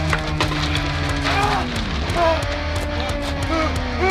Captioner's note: grunting